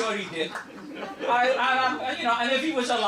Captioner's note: laughter